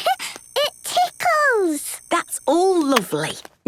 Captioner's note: giggles